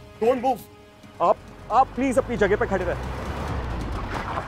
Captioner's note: Car arriving